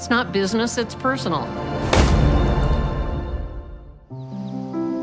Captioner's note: gunshot